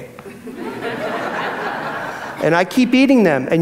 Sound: audience laughs

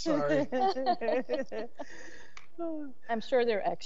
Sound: members laughing

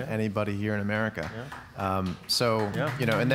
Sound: audience applauds

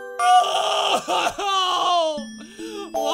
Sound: cries

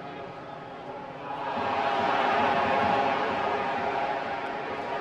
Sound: crowd cheering

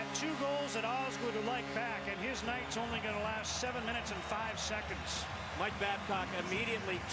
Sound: cheers, applause

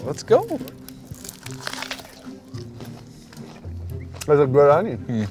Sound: onion crunching

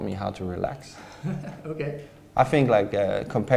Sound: laughs

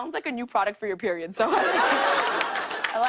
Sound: laughter

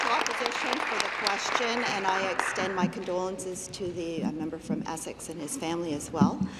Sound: applause

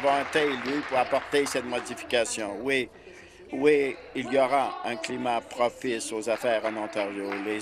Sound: applause

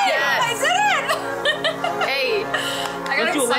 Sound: laughs

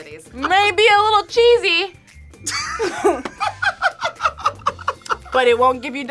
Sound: both laugh

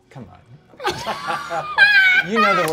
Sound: all laughing

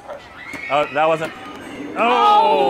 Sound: ball thudding

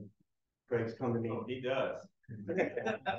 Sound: chuckling

